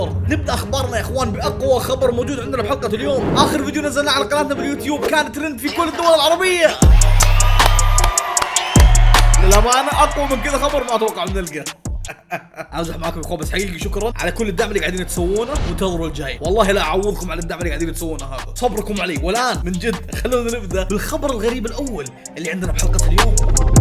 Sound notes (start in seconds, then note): 6.8 cheering; 12.0 laughs